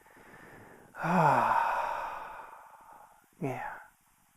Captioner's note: exhales